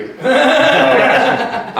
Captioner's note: laughing